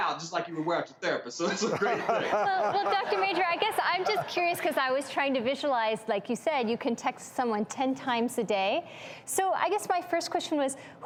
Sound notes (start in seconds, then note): 1.6 laughing